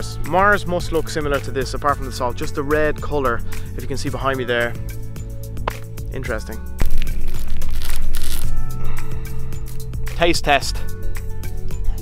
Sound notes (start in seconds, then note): 6.8 salt crunches